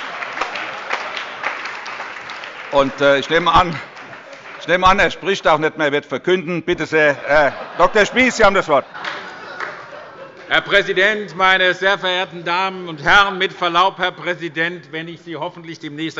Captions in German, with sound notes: Ich nehme an, er spricht auch nicht mehr, er wird verkünden. – Herr Dr. Spies, Sie haben das Wort. (Allgemeine Heiterkeit) Herr Präsident, meine sehr verehrten Damen und Herren! Herr Präsident, mit Verlaub, wenn ich Sie hoffentlich demnächst